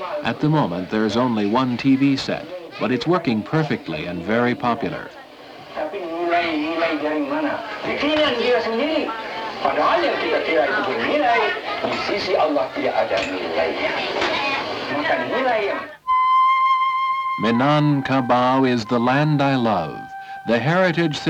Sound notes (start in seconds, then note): 5.8 man's voice coming from the television